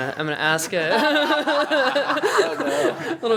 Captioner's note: laughter